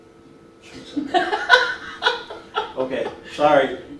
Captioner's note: laughs loudly